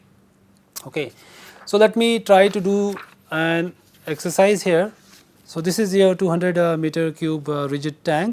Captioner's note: flipping pages